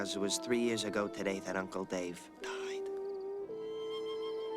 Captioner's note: whispers